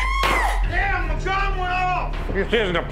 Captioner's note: lady screaming